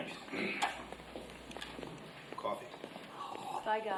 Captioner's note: feet clacking; slurps